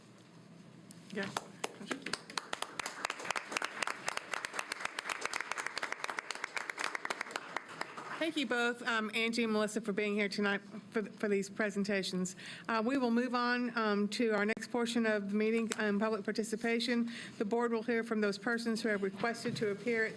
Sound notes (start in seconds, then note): 4.7 applause